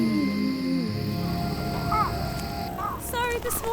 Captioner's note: birds chirping